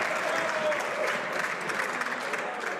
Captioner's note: some Applause